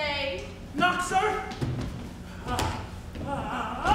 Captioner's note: grunting